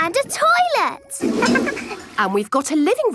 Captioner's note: toilet flush